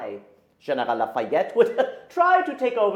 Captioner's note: laughs